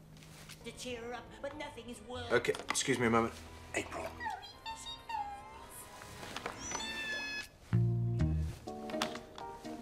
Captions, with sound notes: Yeah. ...to cheer up, but nothing is working. Okay. Excuse me a moment. April! [cartoons play in the background]